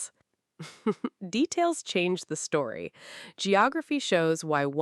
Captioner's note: laughs